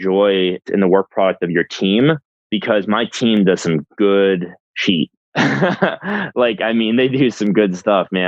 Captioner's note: laughs